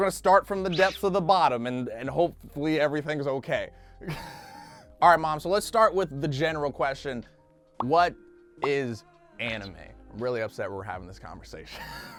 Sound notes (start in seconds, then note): 4.1 laughs; 11.8 laughs